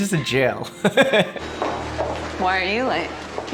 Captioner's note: laughing